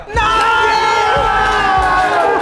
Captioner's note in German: Jubel